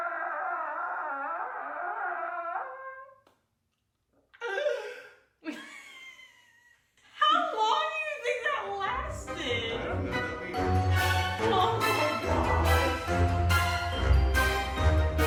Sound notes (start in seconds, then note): 4.5 gasping for air; 12.5 spooky music